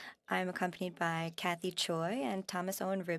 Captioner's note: speaking French